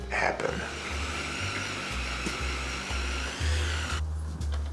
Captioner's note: toothbrush whirrs